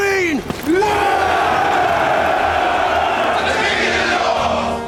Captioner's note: all cheering